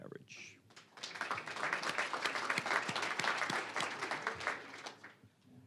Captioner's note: applause